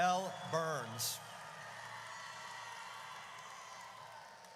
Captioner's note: audience cheers